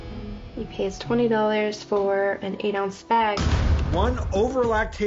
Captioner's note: woman's Voice